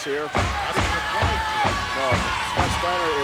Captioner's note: rhythmic thudding